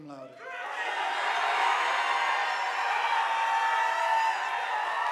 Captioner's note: audience applauding